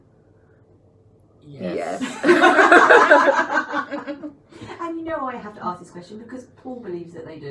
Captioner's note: laughter